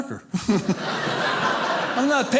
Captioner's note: audience laughing